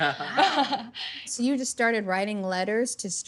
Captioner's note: laughing